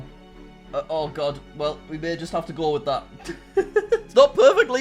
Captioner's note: laughs